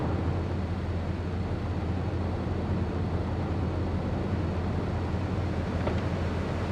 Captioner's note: car engine roaring